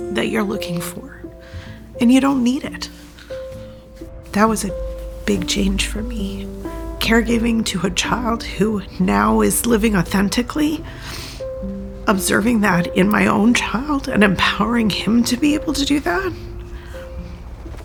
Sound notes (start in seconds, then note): 10.9 sniffles